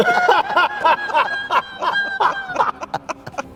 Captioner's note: laughs